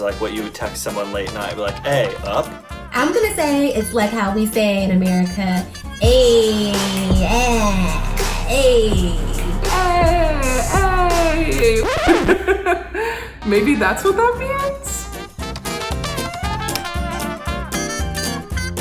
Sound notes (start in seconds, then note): 12.0 laughs; 15.4 upbeat music